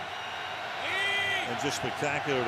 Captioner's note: cheering